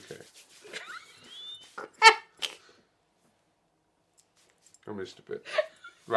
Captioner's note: laughs